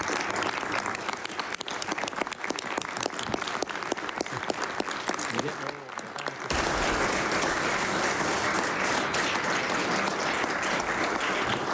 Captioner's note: applause